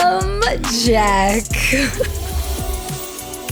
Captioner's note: gasp